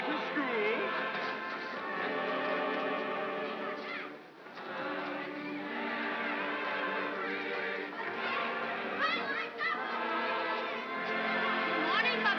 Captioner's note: sounds of happy voices